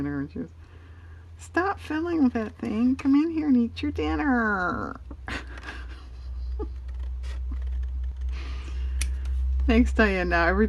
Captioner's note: laughs